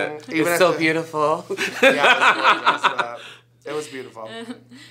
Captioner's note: laughs